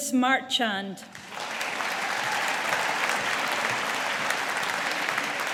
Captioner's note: audience applauding